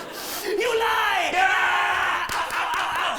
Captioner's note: both shouting